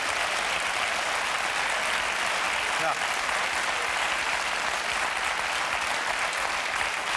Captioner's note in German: Applaus